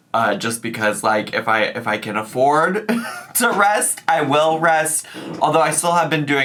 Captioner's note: laughs